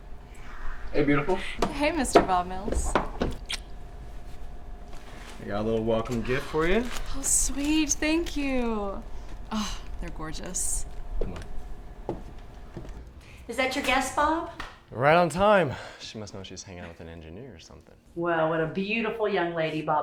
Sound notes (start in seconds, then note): 3.4 lips smacking